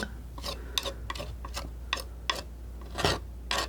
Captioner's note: scratching